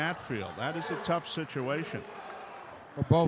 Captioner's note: clapping